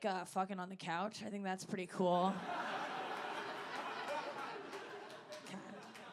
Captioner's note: audience laughing